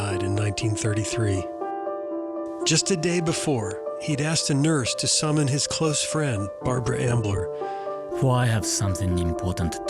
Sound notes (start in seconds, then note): 0.3 poignant music; 4.0 voice of speaking in Japanese